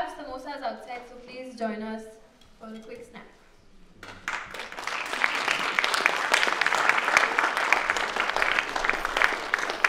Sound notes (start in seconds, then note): 4.0 applause